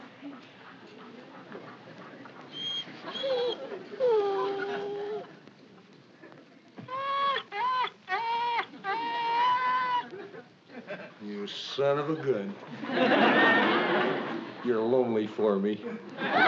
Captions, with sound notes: ( WHIMPERING ) ( WHIMPERING ) You son of a gun. You're lonely for me.